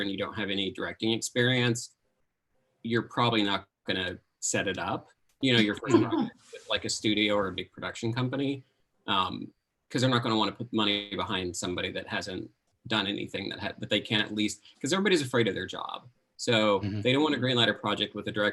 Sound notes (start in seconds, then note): 5.5 laughing drowns out speaker